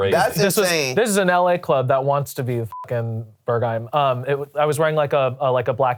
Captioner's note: beep